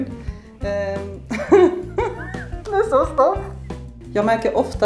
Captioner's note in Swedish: skrattar